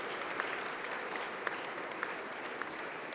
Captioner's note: applause